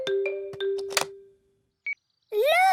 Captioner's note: clicks; meter beeping